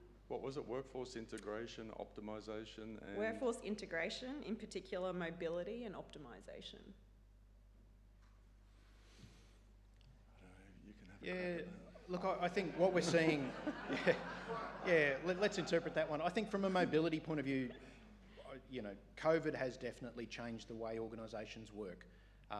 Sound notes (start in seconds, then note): 8.7 breathing deeply; 12.0 audience laughing; 13.8 chuckling